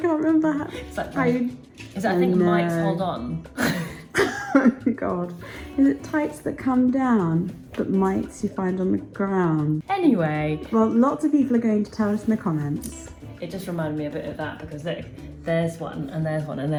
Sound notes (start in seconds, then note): 3.5 laughs; 3.5 laughing